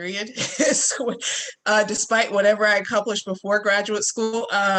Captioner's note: laughing